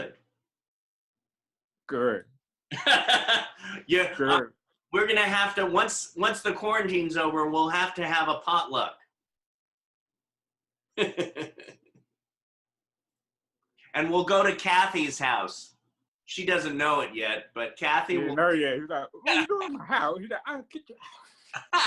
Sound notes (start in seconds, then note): 11.1 laughing; 19.1 laughing